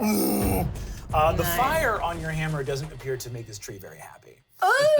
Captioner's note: groans